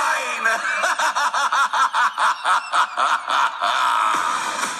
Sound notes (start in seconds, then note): 0.3 evil laughs as the song ends 2:06